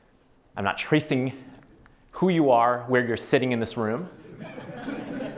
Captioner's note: laughter